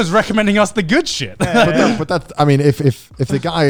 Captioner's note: laughs